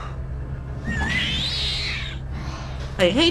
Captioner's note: awful exhaling noise